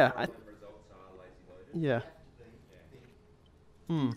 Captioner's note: voiceover